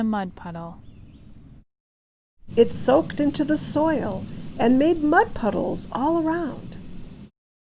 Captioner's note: rain sounds